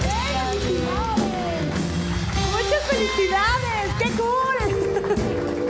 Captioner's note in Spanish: Ríe